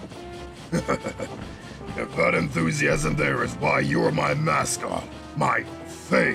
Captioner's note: chuckles